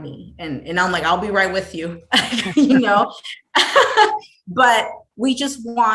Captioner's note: laughs